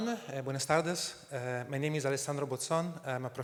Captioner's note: speaking spanish